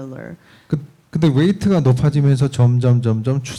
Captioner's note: speaking korean